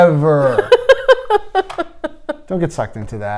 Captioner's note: laughing